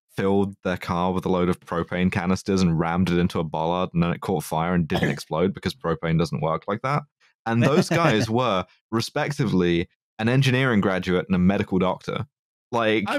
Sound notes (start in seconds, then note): 7.5 laughs